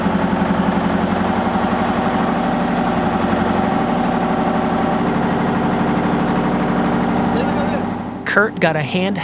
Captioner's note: drill truck starts up; loud machinery running